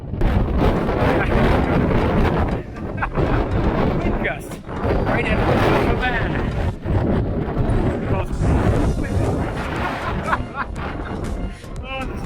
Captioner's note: laughing; laughing